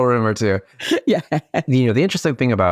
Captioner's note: laughs